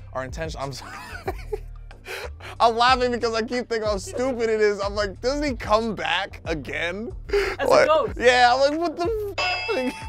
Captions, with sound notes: are intentionally, I'm sorry (laughs). I'm laughing because I keep thinking how stupid it is. I'm like, doesn't he come back again? - As a ghost. - Yeah, what the (bell dings).